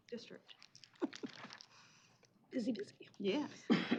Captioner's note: chuckles